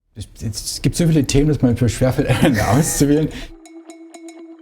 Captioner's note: laughing